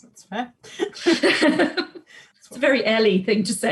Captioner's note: both laughing